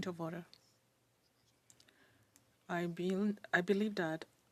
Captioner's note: speaking French